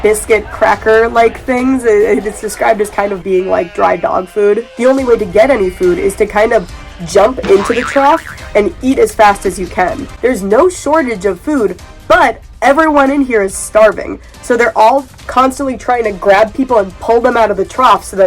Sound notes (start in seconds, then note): 7.4 boing